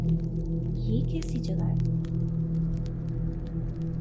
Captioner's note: murmured